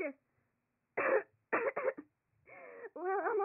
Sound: cough

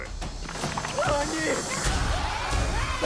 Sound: shrieks

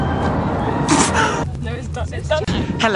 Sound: breathes out

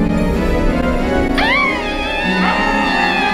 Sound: violin Sound; old Scream Sound; high Scream Sound

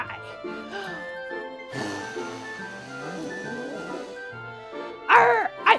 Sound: puppet blowing raspberries

